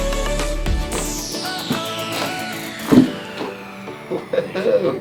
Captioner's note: spine cracking